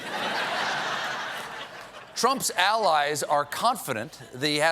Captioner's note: laughter